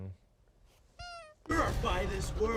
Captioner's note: button squeaks